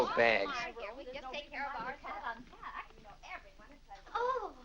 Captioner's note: women chattering